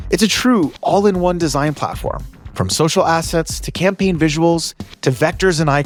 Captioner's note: none